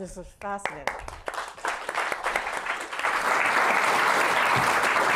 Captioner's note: applause